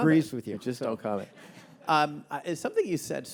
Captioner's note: audience laughing